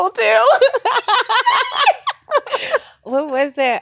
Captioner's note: squealing